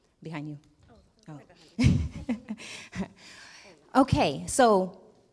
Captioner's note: laughs